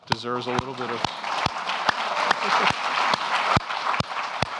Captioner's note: audience clapping